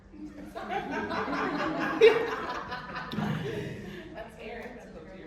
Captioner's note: everyone laughing